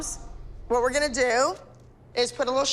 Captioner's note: none